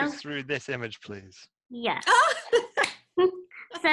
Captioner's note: laughs